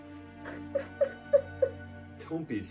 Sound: cries

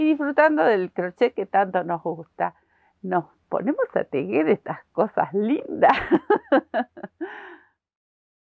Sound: laughs

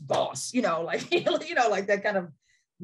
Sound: chuckles

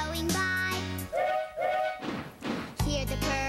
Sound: toot-toot choo-choo

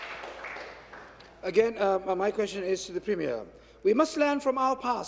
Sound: applause

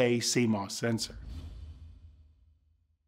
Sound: swoosh

